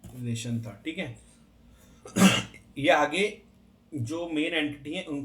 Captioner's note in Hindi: गला साफ़ करने की आवाज़; खांसने की आवाज़